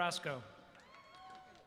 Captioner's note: applause